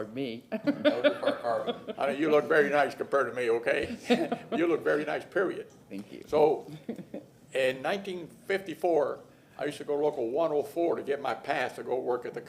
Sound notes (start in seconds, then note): 3.9 laughter